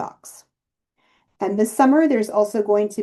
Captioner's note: inhale